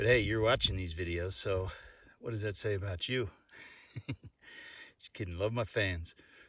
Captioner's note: chuckles